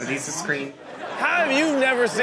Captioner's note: audience laughing